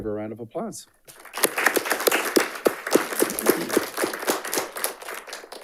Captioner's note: audience applauding